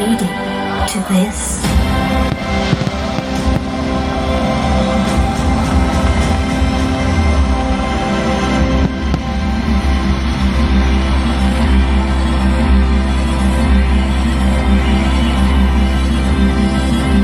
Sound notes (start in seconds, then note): 1.6 fireworks